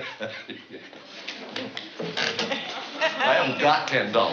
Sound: laughing

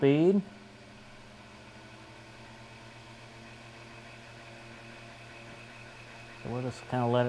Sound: whir of fan

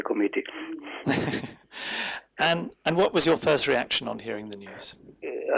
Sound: laughs

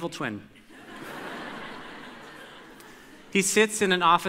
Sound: audience laughter

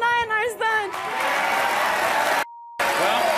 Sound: audience applauds

